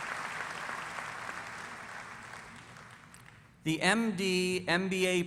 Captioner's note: applause